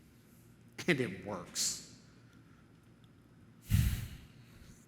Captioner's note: exhales